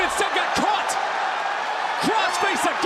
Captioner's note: crowd cheers